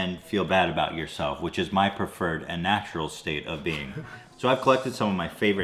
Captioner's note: dad laughs